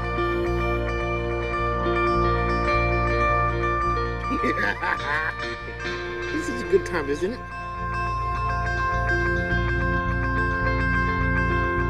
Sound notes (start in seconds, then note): 4.2 laughs; 8.4 mellow music